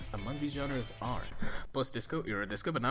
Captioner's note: inhales